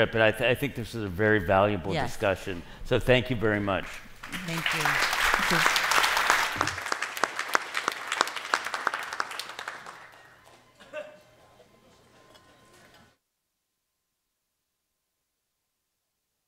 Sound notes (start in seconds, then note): 6.3 applause